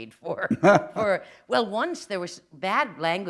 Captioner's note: chuckle